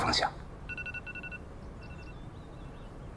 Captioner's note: alarm